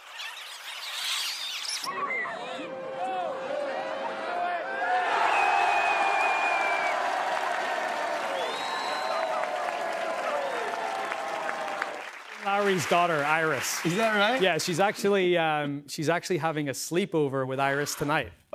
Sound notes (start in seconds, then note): 5.0 crowd cheering